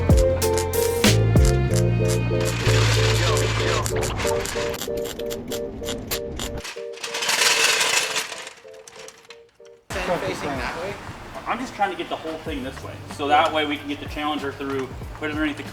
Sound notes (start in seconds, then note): 4.8 upbeat music; 6.5 plastic crinkling